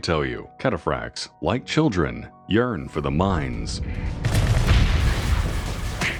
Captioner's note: bonk